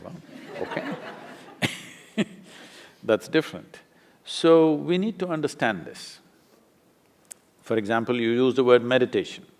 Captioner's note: laughter; laughs